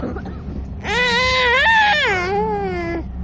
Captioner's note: coughing; child crying